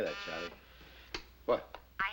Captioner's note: buzzing